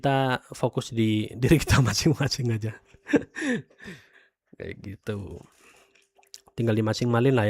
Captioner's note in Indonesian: tertawa